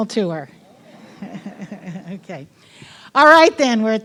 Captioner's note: audience murmuring; laughing